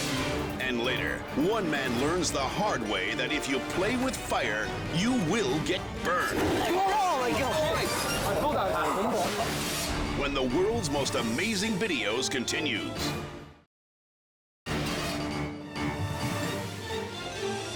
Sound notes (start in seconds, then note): 6.5 flames whoosh; 14.7 dramatic music